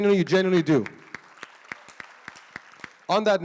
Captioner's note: audience claps